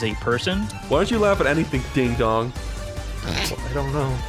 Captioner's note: snrk